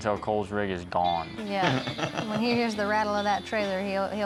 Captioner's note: laughs